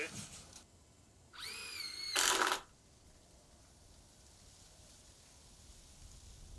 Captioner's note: drill buzzing